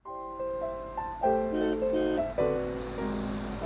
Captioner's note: car horn